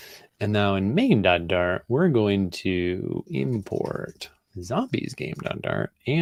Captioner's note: none